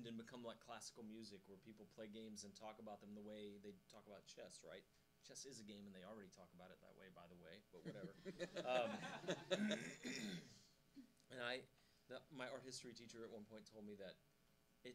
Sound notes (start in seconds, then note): 7.9 laughing